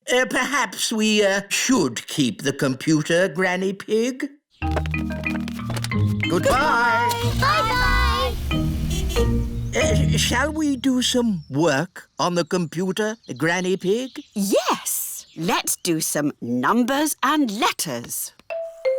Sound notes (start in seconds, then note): 8.9 horn honks